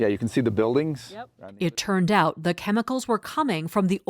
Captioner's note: voice-over